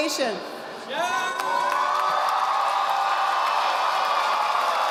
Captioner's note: audience applauding